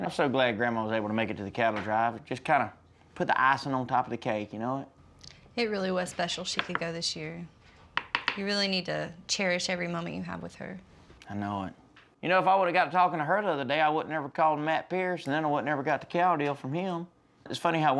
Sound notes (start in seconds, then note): none